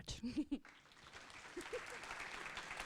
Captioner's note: applause